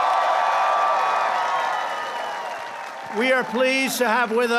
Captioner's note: applause